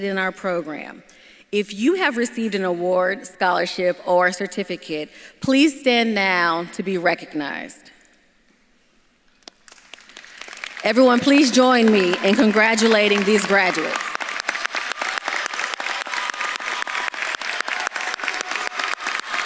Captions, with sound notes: in our program. If you have received an award, scholarship, or certificate, please stand now to be recognized. (audience clapping) Everyone, please join me in congratulating these graduates. (audience claps and cheers)